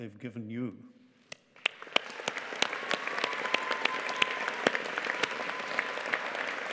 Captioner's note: audience cheering and applauding